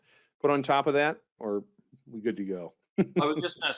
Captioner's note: laughs